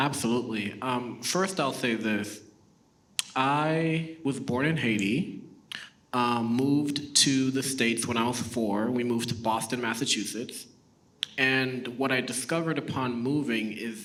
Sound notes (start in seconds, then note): none